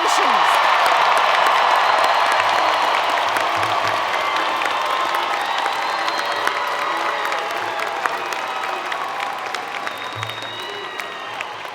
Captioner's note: applause